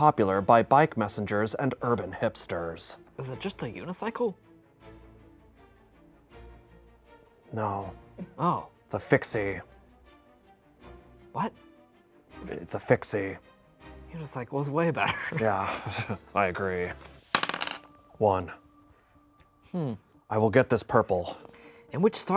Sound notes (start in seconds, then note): 4.8 tense string music; 15.0 laughs